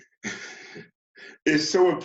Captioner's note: chuckles